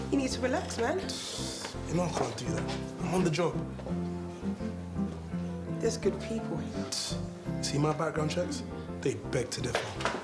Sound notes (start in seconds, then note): 1.1 exhales; 7.1 scoffs